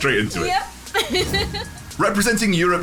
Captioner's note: giggles